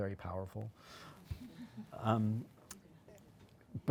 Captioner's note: audience laughing